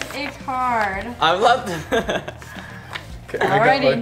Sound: laughs

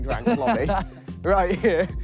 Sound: laughs

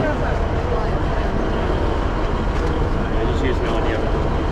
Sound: passengers talk

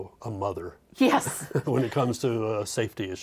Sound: laughing

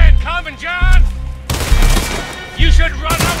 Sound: gunshots

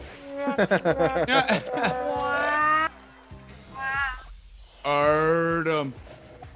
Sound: laugh

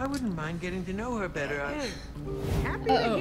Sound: Sabrina sighs

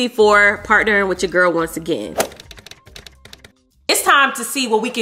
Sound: keys clacking

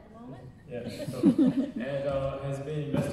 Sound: audience laughing

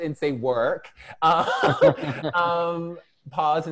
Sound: laughter

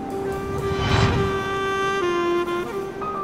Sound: slow, melodic jazz music; whoosh; slow, melodic jazz music

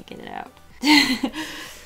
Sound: laughs

